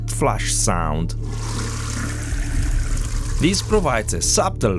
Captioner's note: toilet flush